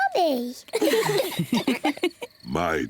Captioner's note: all laugh